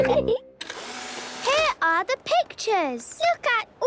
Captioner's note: whirring